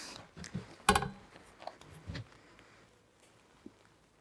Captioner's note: cyclone thudding